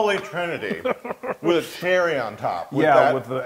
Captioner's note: laugh